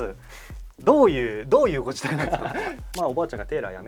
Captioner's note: laughs